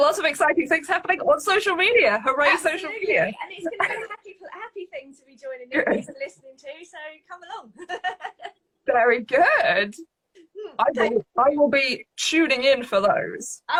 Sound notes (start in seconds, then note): 7.7 laughs